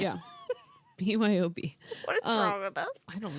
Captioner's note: laughing